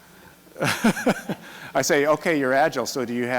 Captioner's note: laughs